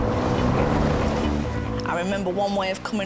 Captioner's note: waves rustling